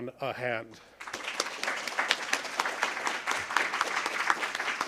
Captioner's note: applause